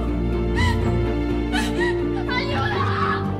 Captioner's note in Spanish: Sollozos